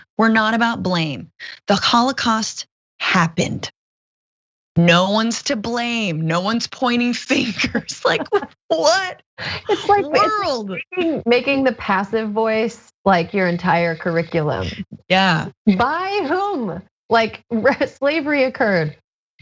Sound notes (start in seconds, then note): 9.5 laugh